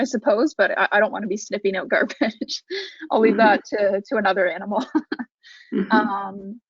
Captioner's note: laughs